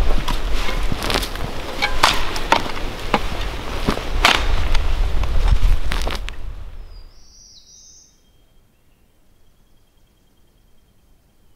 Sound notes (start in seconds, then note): 6.7 birds chirping